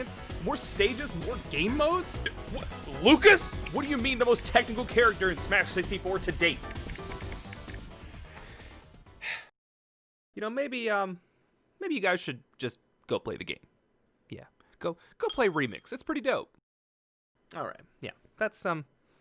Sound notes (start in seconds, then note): 9.2 sigh